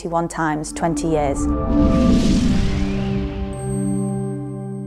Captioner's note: logo whooshing